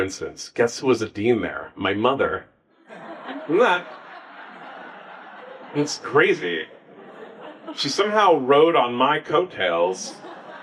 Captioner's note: audience laughs